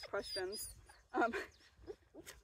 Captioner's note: laughing